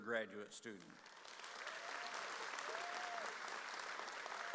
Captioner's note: audience cheers